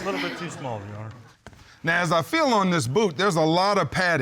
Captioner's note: audience laughing